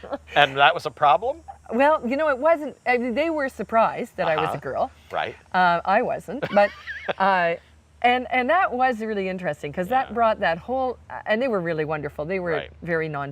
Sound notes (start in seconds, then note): 0.0 laughing; 6.3 laughing